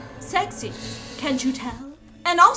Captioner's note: voiceover